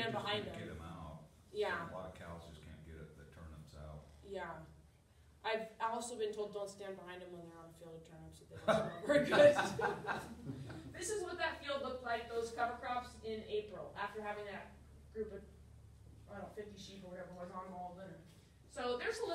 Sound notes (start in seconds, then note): 8.6 laughter